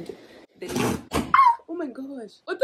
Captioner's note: screams